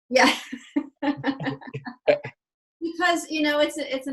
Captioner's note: laughing